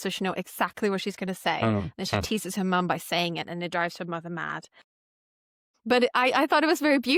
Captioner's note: laughter